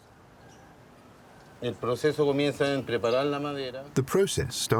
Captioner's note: speaking Spanish